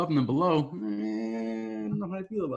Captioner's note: groaning